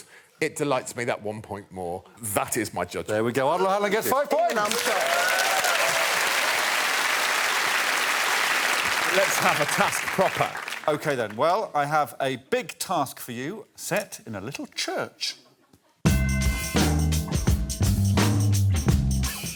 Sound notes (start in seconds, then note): 4.5 applause